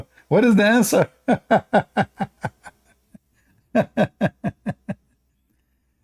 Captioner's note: Ketawa